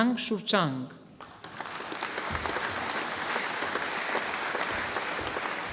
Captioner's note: audience applauding